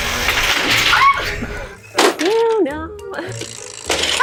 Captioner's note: machine rolling